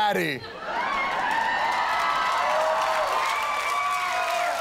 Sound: cheers and applause

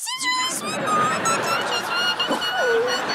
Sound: squeaking

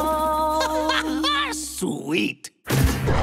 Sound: laughs

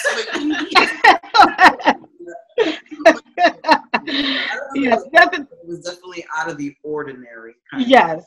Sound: laughing

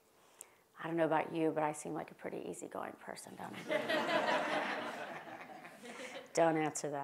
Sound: laugh

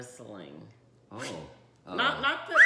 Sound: whistling

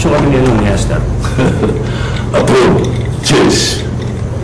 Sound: chuckles

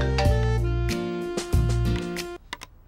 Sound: mobile rings

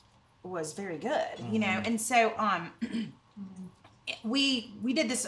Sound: others murmur agreement

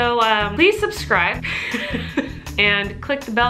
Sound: laughs

